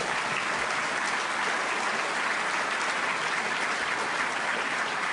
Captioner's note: applause